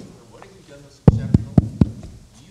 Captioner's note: banging on microphone